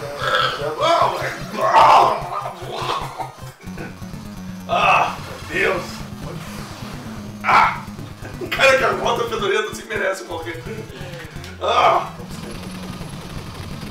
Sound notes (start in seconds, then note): 0.0 wild bear grunting; 0.0 burps